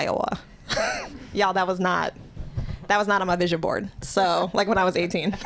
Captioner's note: laughter; laughter